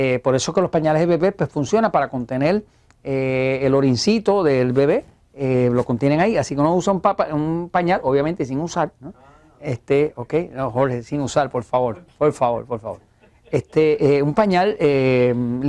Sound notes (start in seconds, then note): 13.0 laughs